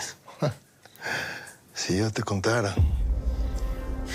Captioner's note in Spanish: Ríe